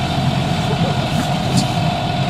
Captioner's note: giggles